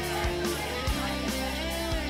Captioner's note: crowd cheering; crowd chatter